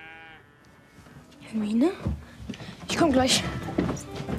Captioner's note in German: besorgt